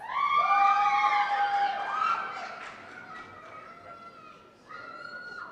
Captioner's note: cheers and applause